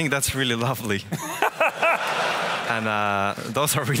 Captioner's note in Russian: смех